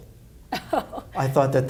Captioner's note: laughs